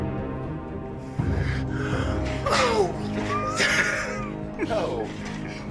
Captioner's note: inhales; laughs; metal clanging